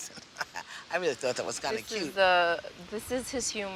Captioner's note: chuckles